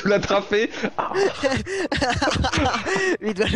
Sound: laughs

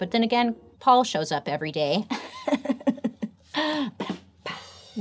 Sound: laughs; cymbal crashes

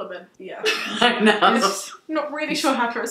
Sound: laughing

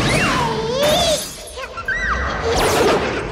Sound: Pubert giggles

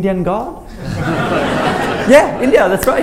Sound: laughter

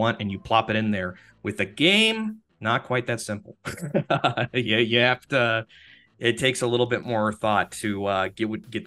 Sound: laughs

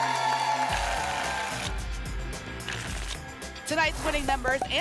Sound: tickets shuffling

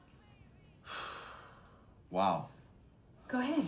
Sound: exhales

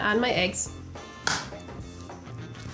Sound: noise of eggs breaking

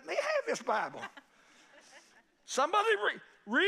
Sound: congregation laughing

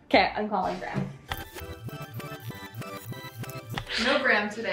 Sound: tape rewinding

